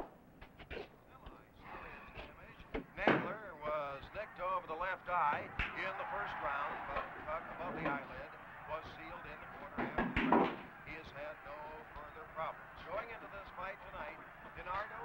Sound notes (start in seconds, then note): 3.9 tv sportscaster in background